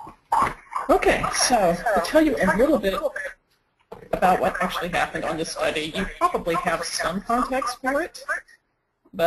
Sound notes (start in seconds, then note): 0.1 echo in recording